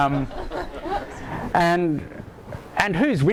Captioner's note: audience laughter